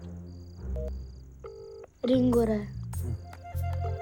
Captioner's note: phone ringing